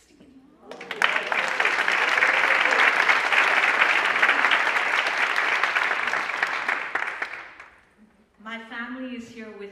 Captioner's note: applause